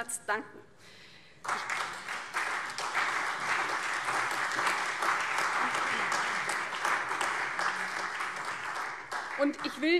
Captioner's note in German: Beifall CDU, BÜNDNIS 90/DIE GRÜNEN und AfD